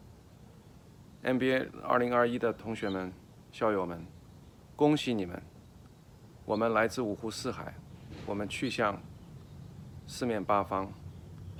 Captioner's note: speaks in foreign language